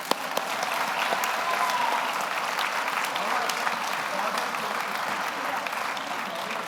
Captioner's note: audience cheers; audience applauds